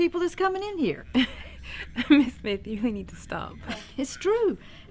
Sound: laughs

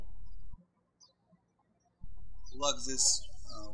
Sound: birds chirping

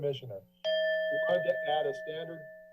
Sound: bell ring

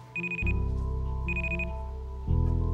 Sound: Ichabod's phone buzzes

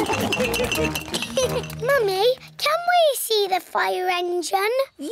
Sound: laughs; giggles; all laugh

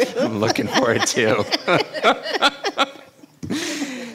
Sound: laughing

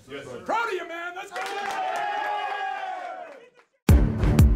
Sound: cheers; intense music

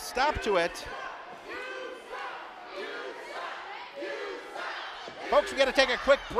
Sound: crowd

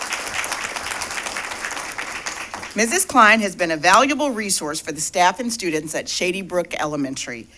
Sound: applause

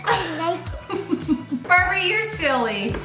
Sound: laughs

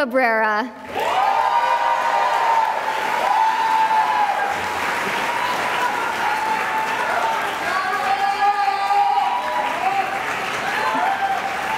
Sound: cheering and applause

